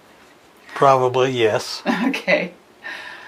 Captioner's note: chuckles